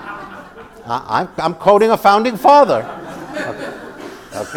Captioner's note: laugh